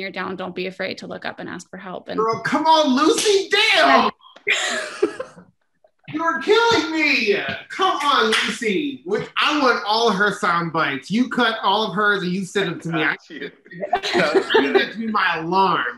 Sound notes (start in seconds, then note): 4.2 laughs